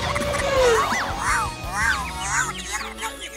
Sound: squeaking

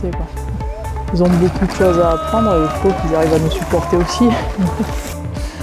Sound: laughs

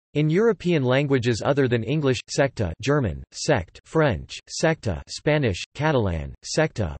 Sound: German

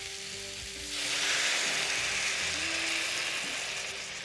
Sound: sizzling

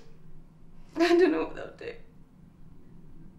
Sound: sobs

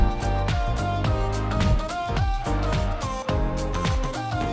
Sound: whooshing; upbeat music ends

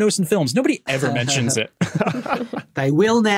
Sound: group laughing

